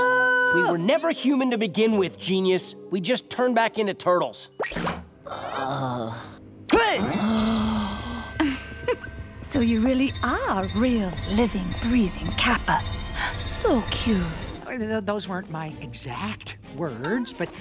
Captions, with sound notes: We were never human to begin with, genius. We just turned back into turtles. Oh. Good. [gasping] [chuckles] So you really are a real, living, breathing Kappa. So cute. Those weren't my exact words, but-